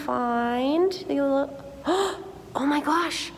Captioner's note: gasps